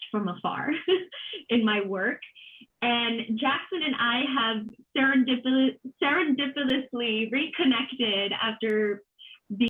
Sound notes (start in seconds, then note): 0.9 laughing